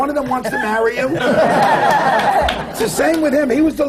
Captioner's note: laughter